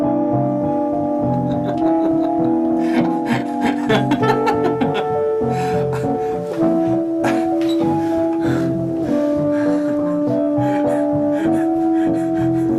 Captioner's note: manical laughter